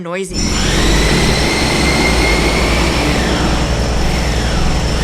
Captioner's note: construction machines whirring